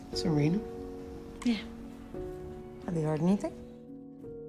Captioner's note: voiceover